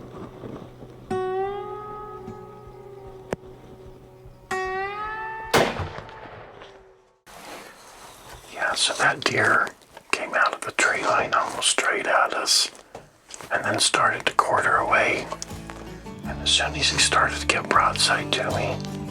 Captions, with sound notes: (gunshot) - So that deer came out of the tree line almost straight at us and then started to quarter away and as soon he started to get broadside to me,